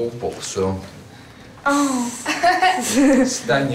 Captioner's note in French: rire